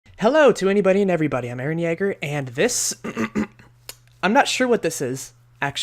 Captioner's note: clears throat